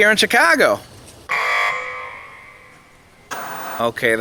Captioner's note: buzzer; TV Static